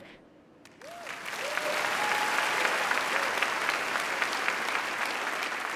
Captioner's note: audience applauding and cheering